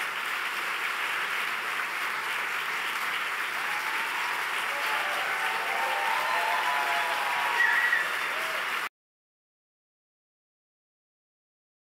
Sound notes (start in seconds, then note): 3.4 audience cheers